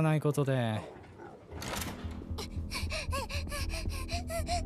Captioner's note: panting; tense music plays